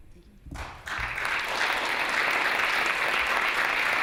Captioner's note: applause